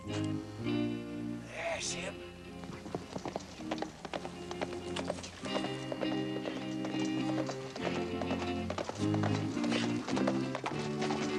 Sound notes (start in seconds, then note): 3.8 horse galloping